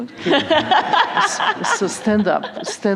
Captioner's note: laughter